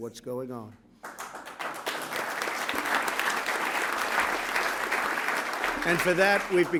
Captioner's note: applause